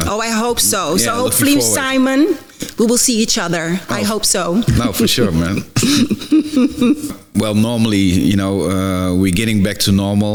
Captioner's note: laugh